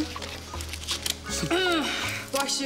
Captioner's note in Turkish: Boğazını temizliyor